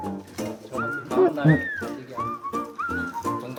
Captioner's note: munching away